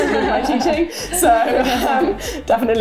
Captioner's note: laughter